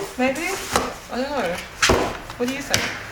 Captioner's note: object thuds